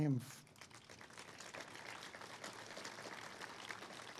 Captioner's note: all clapping